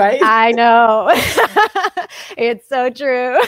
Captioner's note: both laughing